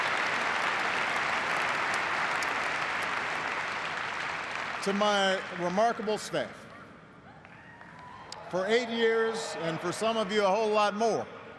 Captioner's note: cheers and applause